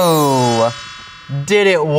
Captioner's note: chimes